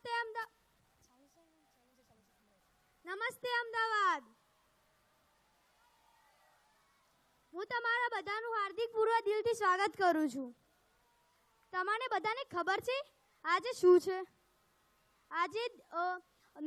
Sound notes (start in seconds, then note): 8.8 applause